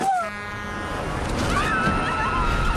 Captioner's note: truck horn; screaming